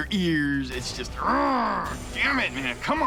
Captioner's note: growls